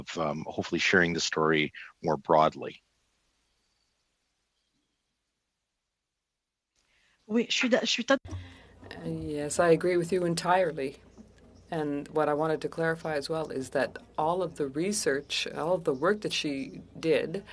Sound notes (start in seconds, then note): 12.2 speaking French